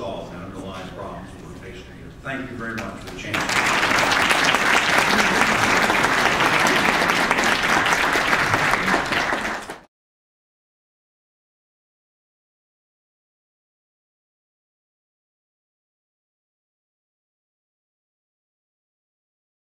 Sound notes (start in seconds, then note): 3.1 applause